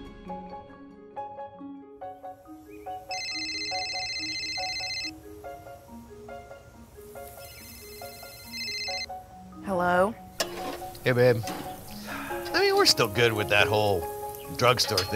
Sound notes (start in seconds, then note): 3.0 phone ringing